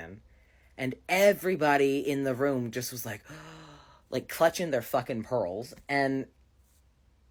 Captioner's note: gasps